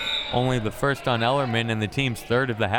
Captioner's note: whistle; buzzer